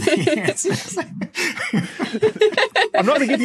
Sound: guests laughing

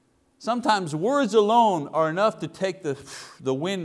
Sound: exhales

